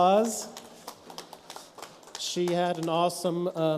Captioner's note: light applause